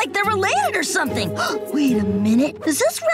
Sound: gasping

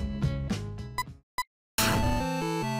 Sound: SFX: Beep; BGM: retro video game style music

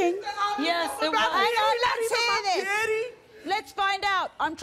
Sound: everyone yelling

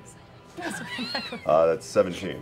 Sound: laughing

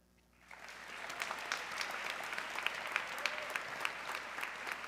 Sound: audience clapping

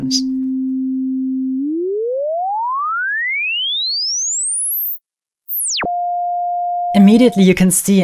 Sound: high pitch tone - rising, then falling in pitch

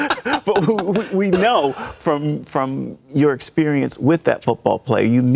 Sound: laughter

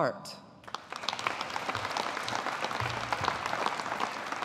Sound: audience applauding

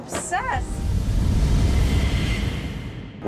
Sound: whooshing

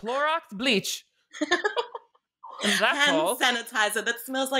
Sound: laughing

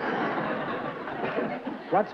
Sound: laughter

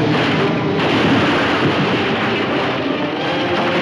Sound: exploding; dramatic music

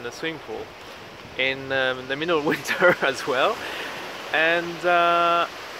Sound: chuckles

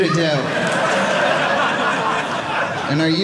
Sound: audience laughing

